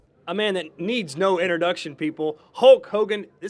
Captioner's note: none